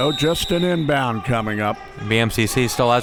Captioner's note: whistle blows